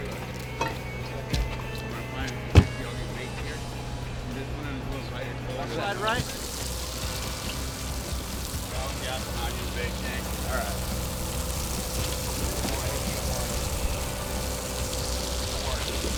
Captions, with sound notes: Check that out. - This one it goes right here. - The left side, right? (crew chatting) (water splashing)